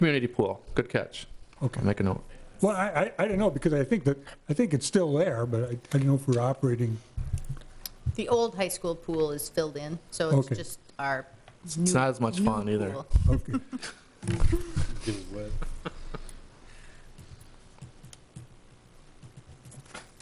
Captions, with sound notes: Community pool, good catch. Okay. I'll make a note. Well I didn't know because I think that it's still there but I didn't know if we're operating. The old high school pool is filled in. So it's just our, okay. New pool. It's not as must fun either. Okay. (laughing)